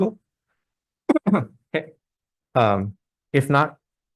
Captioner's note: clears throat